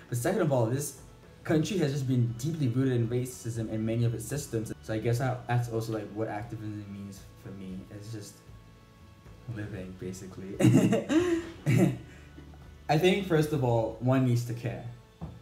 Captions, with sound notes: But second of all, this country has just been deeply rooted in racism and many of the systems, so I guess, that's also like, what active really means for me, it's just living, basically. (laughs) I think, first of all, one needs to care.